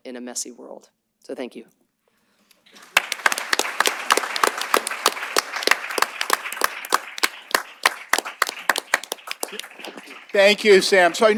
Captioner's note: applause